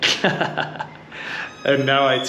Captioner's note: laughs